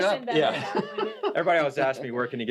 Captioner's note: laughs